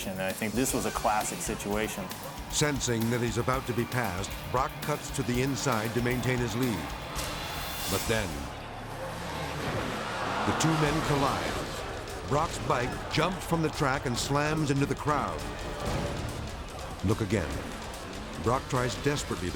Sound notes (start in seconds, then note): 9.3 crowd exclaiming; 9.3 motorcycle smashes